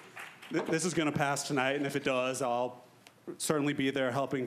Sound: applause

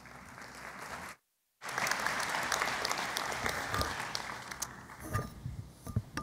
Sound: applause

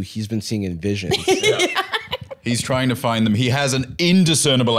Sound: laughs

